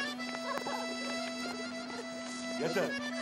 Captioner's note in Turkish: Ağlıyor